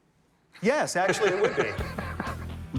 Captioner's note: laughs